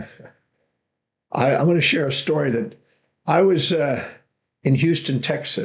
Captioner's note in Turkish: <Gülüyor>